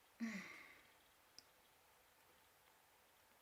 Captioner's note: sighing